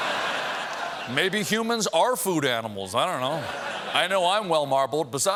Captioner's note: laughter